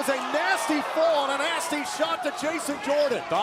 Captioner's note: crowd chatter